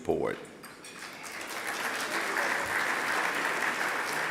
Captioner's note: applause